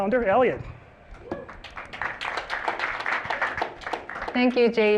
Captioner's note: applause